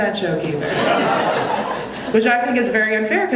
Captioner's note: audience laughing